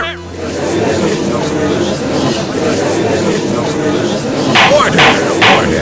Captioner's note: gallery chattering